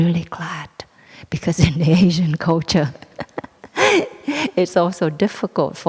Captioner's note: chuckles